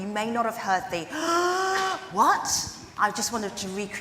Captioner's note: gasps